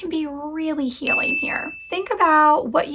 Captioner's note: bell dings